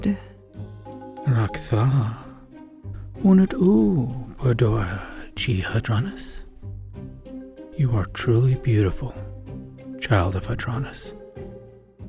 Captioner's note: whispers